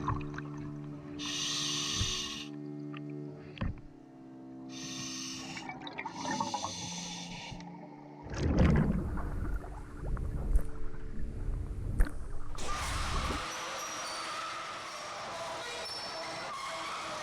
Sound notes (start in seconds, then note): 1.2 air hose hisses; 12.6 door opener creaks